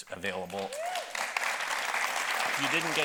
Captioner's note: audience applauding